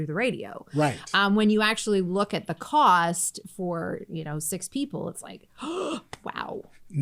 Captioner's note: gasp